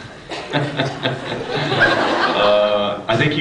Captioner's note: laughs